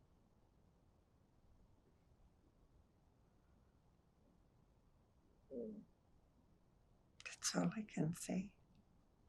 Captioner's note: pauses 8 seconds